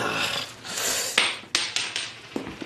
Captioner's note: ring drops